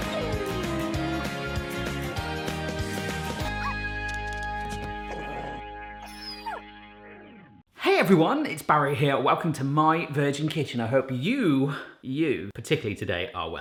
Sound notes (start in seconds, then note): 0.1 dog whining; 4.6 dog growls, whines